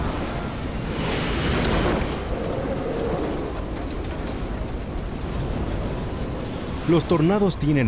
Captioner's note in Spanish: viento